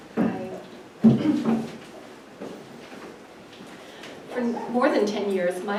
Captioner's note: clears throat